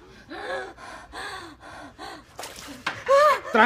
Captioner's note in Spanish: grita